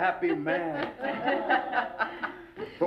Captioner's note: laughing